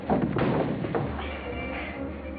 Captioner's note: thuds